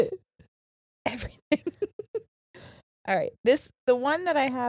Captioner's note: laughing